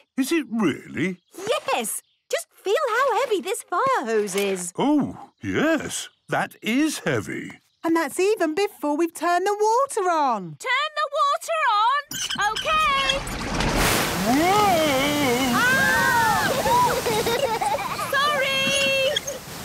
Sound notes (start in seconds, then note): 12.0 wheel squeaking; 14.2 children laughing